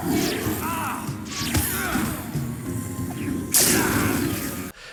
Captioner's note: gentle music; characters yelling